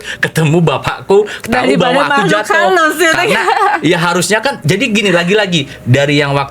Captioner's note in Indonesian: tertawa